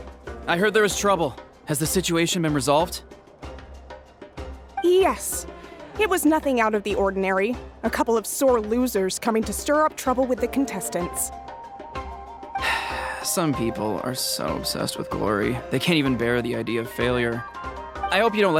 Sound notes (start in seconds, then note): 12.6 sigh